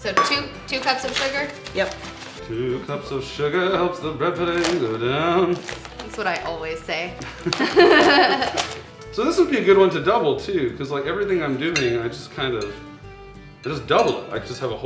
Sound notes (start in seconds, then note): 7.2 laughing